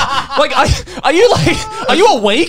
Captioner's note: laughs